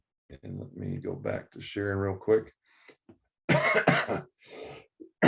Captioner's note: coughs